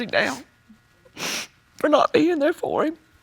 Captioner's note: sniffles